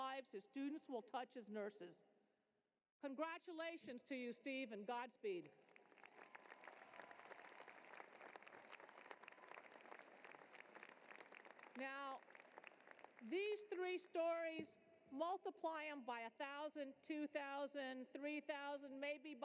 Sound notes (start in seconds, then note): 9.2 applause